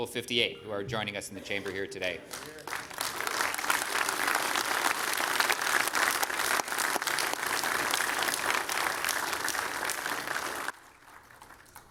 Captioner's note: applause